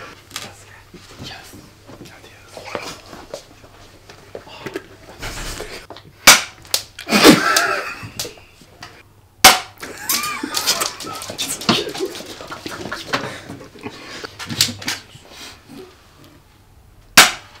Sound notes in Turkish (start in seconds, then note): 7.1 mermi ve gülme sesleri